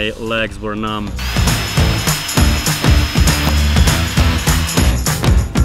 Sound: drilling; rock music

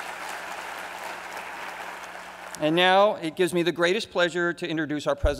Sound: applause

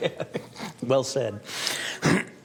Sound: laughing

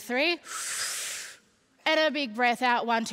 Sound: inhaling

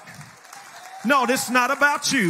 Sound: congregation cheers and applauds

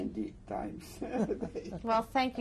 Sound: laughter

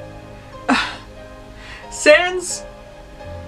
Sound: sigh

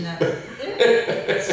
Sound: laughs

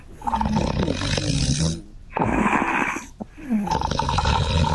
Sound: scorpion snores

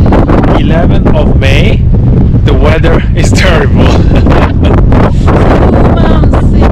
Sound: laughs

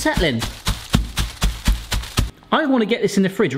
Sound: tapping

